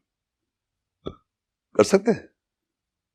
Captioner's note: speaking in Urdu